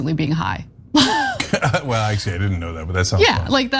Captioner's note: laugh